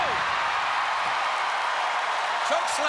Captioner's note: crowd cheering